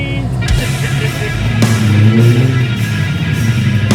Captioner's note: laughing; upbeat rock music